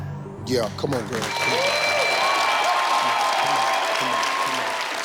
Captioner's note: audience clapping